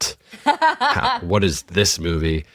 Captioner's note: laughs